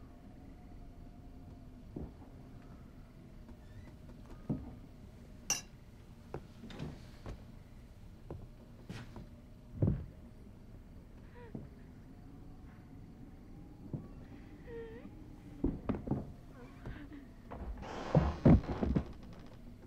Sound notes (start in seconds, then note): 15.0 woman moaning